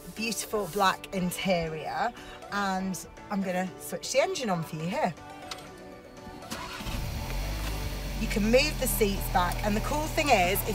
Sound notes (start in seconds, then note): 6.5 engine roaring